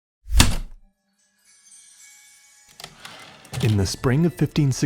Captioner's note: heavy typewriter keystroke, return slide